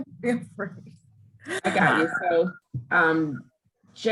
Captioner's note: laughs